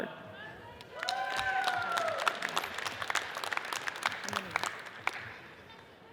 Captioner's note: audience cheers and applauds